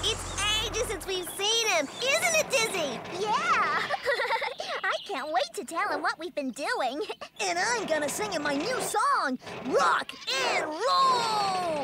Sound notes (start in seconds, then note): 3.2 giggles